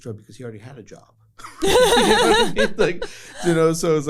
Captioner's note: laughter